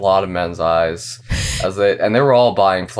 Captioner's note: laughs